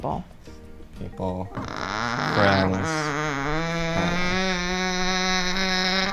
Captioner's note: vocalizes